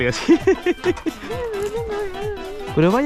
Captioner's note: fear sounds